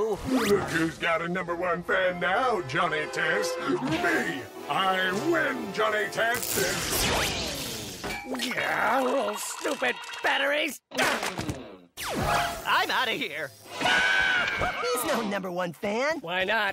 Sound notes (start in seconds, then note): 6.1 fizzles; 13.8 screams